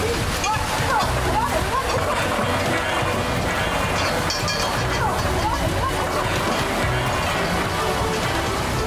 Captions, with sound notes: - What, no- - What? (urgent music) (water rushing)